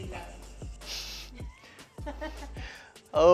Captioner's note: giggles